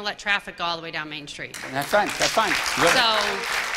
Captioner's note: applause